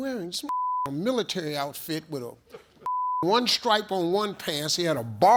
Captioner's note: beep